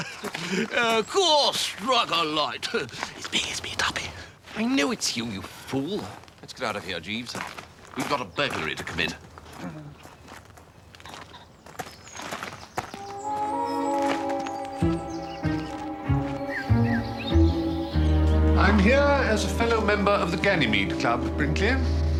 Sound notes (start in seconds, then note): 2.6 whispers